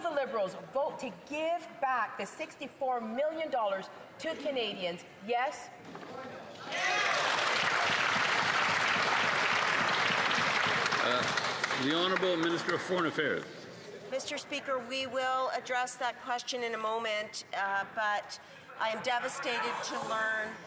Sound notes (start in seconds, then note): 13.4 some Applause